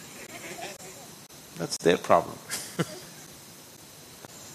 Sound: laughs

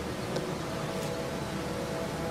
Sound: tap

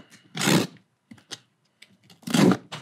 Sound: knife cutting; box clattering

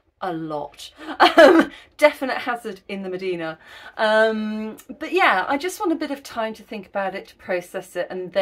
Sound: laughing

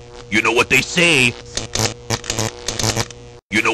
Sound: buzzing and sparking

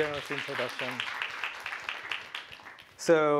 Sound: applause

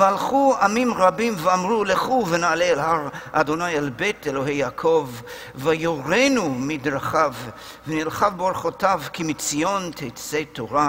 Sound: Hebrew

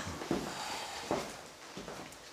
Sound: gasps

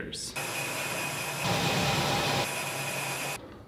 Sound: drills whir

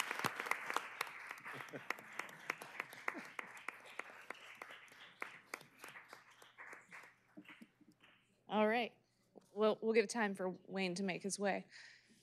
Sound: applause

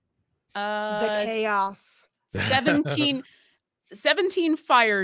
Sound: laughing

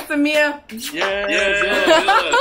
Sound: blows kiss

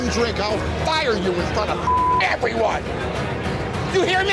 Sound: beep

